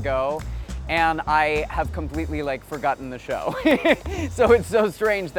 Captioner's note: laughs